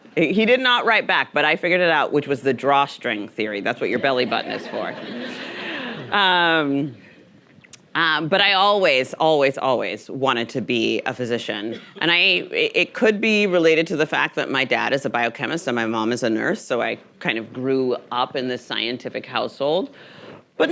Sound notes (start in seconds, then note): 4.2 audience chuckling